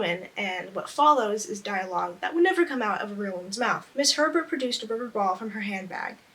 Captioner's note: none